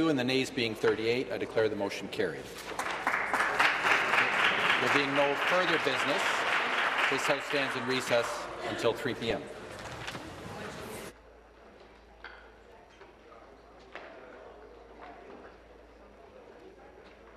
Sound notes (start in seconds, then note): 7.1 applause